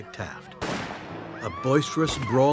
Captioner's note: gunshot